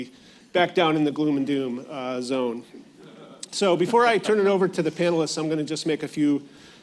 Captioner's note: laughter